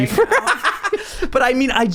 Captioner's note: laughing